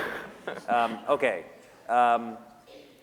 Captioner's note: laughter